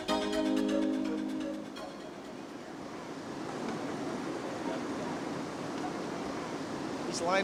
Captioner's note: music concludes; water rushing